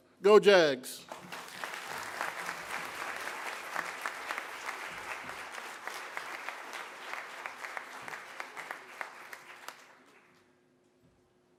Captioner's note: applause